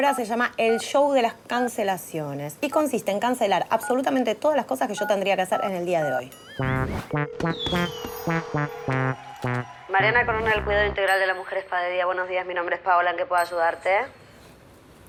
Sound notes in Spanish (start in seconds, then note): 8.1 Aplausos, vítores